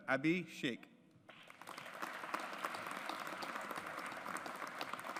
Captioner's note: audience applauds